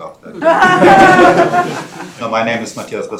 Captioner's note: laughing